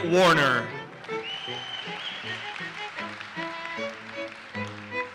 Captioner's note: audience cheers and applauses